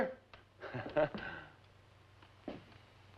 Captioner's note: chuckles